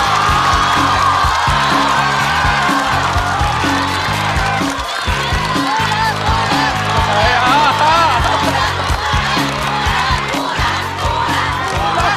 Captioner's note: applause